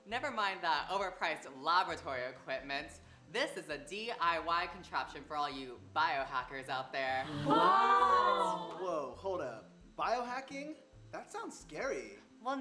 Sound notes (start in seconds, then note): 7.2 gasping